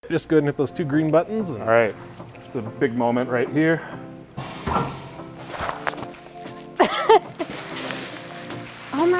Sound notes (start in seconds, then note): 4.3 machine hissing; 4.4 sack rustling; 6.8 laughing